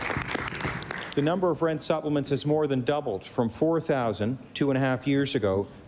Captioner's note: applause